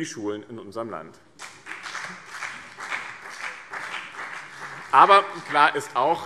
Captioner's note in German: Beifall BÜNDNIS 90/DIE GRÜNEN und vereinzelt CDU